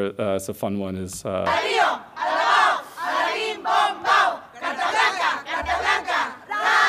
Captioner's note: chant in foreign language